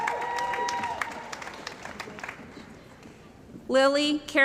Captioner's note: cheering & Applause